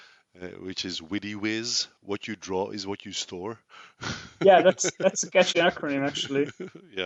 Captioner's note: laughs